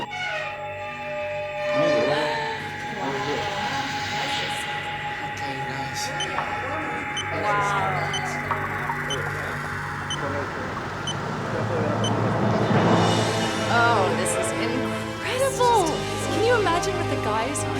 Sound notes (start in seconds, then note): 0.0 door creaking; 6.5 timber beeping; 12.6 dramatic music